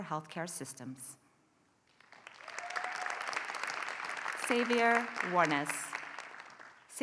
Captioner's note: applause